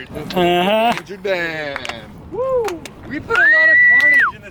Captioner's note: slow clapping